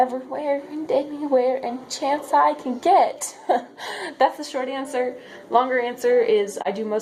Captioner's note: stupid laugh